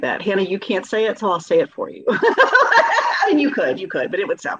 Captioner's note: laughing